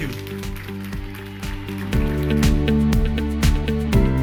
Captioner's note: applause